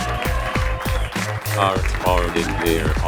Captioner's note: cheering